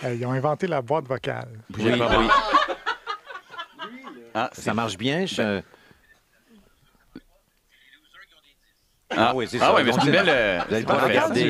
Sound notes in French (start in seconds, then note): 1.9 rires; 6.2 en sourdine